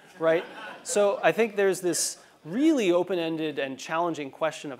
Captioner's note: laugh